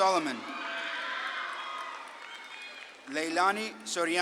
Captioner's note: audience claps and cheers